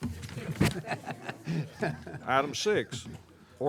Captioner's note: all chuckling